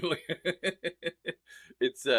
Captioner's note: laughs